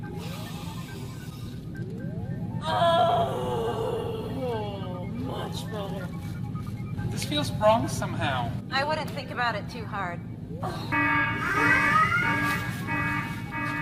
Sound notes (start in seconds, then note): 0.1 snorting; 2.9 lets out large sigh of relief; 10.8 alarms blaring